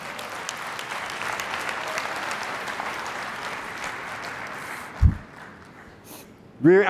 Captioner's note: applause